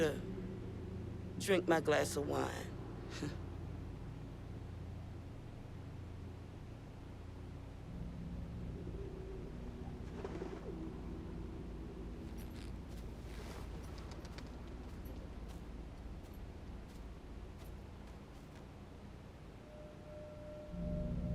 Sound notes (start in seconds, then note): 3.1 Joyce chuckling